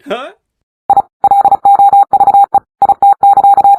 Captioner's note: robot beeping